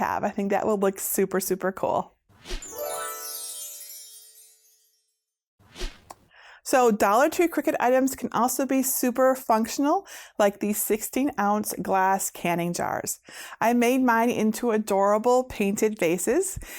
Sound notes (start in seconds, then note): 2.6 stars twinkling; 5.7 air whooshing